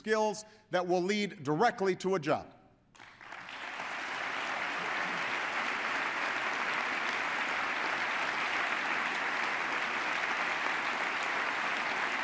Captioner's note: applause